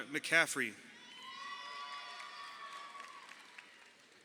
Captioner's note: crowd cheering